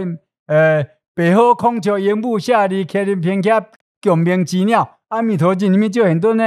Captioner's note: Taiwanese